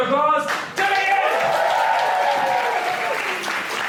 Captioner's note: cheers and applause